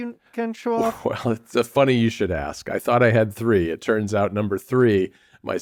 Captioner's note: laughs